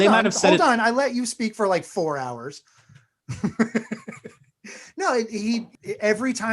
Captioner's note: laughs